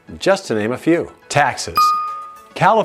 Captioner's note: bell dings